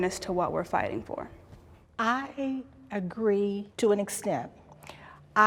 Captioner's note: none